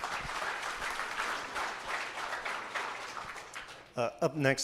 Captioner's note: applause